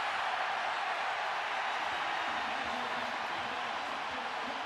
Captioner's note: cheers, applause